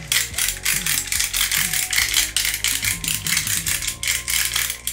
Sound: grinder grinding

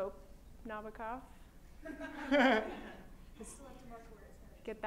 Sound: laughter

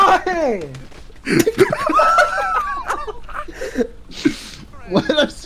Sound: laughter

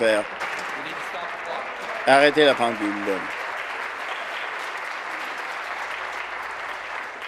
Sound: some Applause

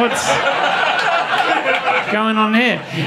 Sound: audience laughing

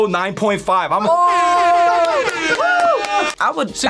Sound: air horns blaring

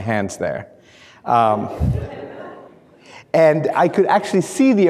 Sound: laughing

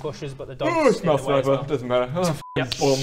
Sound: yawn

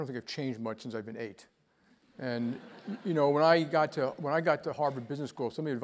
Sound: laugh

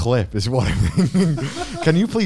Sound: laughing

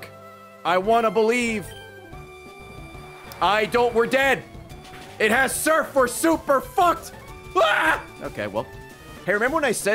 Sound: screams

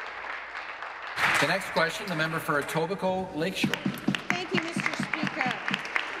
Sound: applause

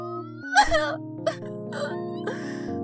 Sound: crying

